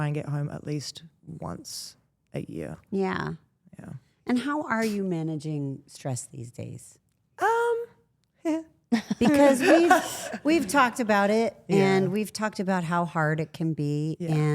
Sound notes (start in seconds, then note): 9.0 laughs